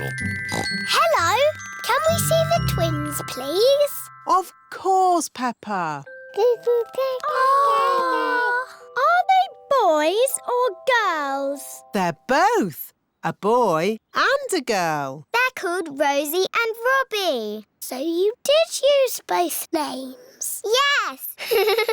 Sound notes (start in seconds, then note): 0.4 oinks; 7.2 babies gurgle; 21.4 laughs